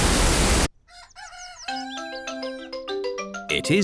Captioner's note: cockerel crows